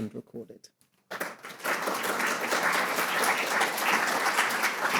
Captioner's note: audience applauding